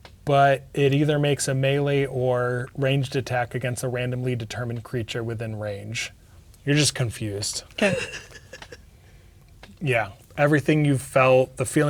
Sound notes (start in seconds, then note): 7.8 laughing